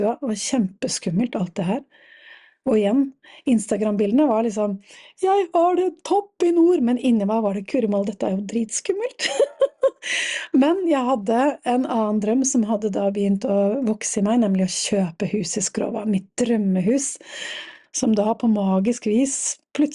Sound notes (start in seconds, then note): 9.2 laughter